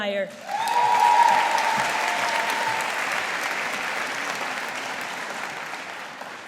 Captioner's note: audience applauding